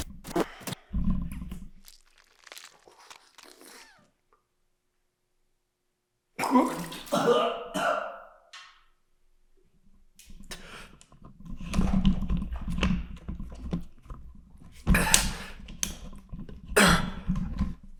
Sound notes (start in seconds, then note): 0.1 static crackling; 1.4 tooth crunching; 6.6 Jacob retching; 15.2 Jacob coughing